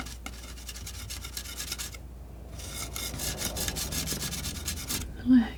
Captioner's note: metal scraping